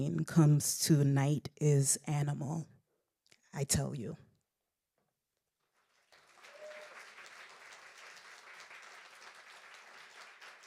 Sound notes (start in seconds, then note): 5.7 audience applauding